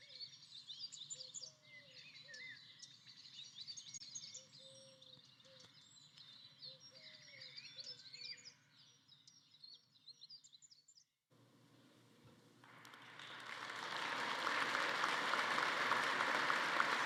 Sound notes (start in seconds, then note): 12.6 audience applauding